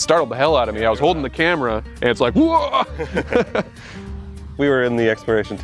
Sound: laughs

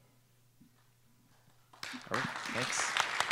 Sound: applause

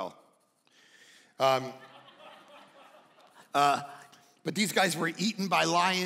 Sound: congregation laughing

